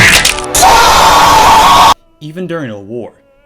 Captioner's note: earrape Screaming